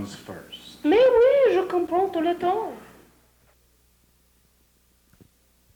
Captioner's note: speaks foreign language